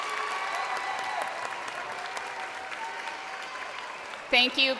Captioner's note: crowd cheering